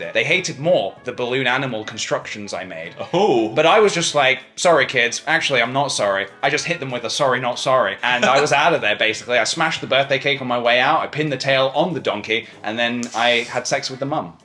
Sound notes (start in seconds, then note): 8.0 laughs